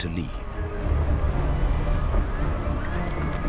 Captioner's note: earth rumbling